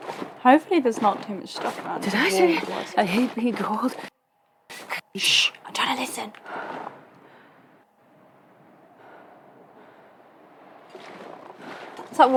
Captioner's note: whispers